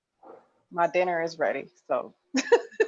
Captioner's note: laughs